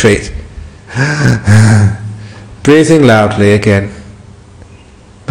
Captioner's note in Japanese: 呼吸の真似